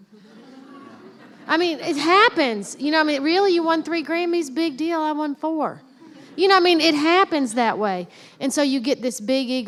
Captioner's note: laughter; laughter